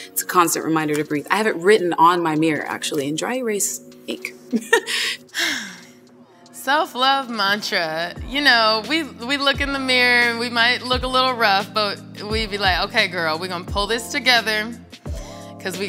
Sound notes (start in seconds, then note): 4.5 laughs; 4.8 sighs